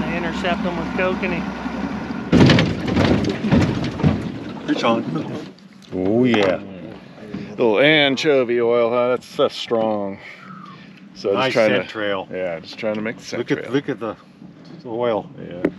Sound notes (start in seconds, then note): 2.7 boat banging onshore; 6.3 chuckling